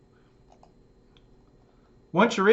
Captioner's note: mouse click